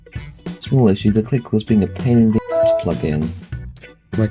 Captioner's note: windows 7 log off sound